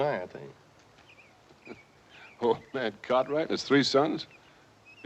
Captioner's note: chuckles